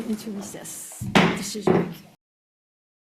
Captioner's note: gavel thuds